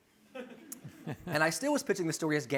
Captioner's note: laughter